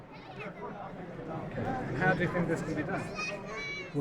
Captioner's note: voiceover